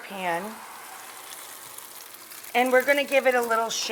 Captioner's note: pan sizzling